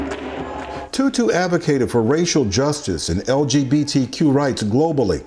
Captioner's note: applause